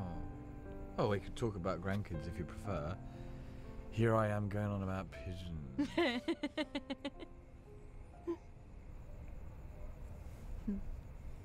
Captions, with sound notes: - during the day. - Oh. We could talk about grandkids, if you prefer. Here I am, going on about pigeons. [laughing]